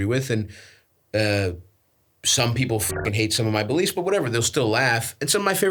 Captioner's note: beeps